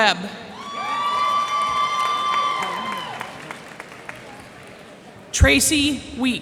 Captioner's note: cheers and applause